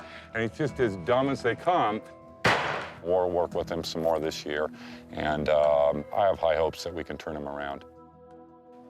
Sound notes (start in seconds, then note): 2.4 gun blasting